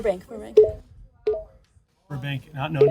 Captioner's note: machine beeping